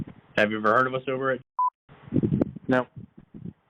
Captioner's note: beep